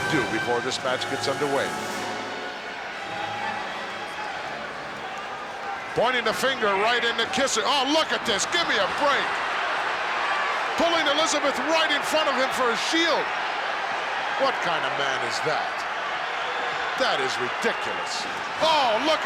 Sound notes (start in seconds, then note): 10.1 crowd boos